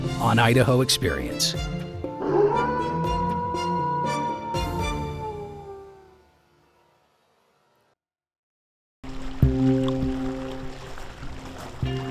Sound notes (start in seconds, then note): 2.1 howling; 9.0 sound of water